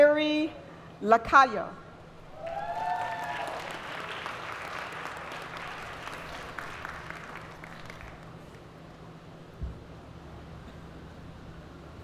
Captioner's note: applause